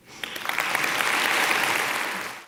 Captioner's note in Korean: 박수